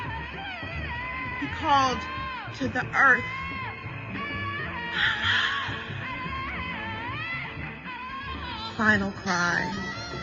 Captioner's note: whispers